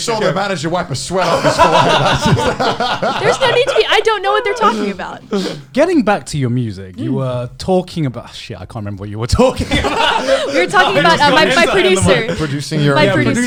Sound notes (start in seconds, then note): 1.2 laughs; 9.5 laughs